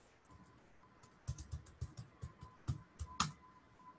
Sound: keyboard keys clacking

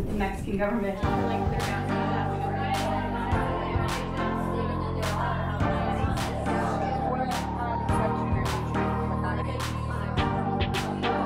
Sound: students debating

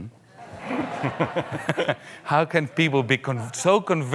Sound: audience laughing lightly

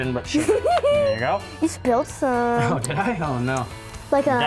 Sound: laughter

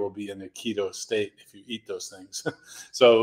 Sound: chuckles

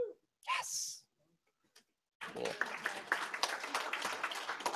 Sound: applause

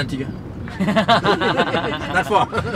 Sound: laughing

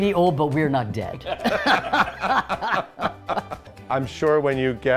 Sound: group laughs

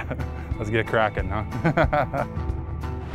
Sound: laughter; laughter

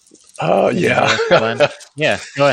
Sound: laughs

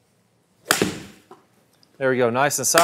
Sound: golf ball clanks

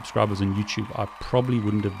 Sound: crowd cheers

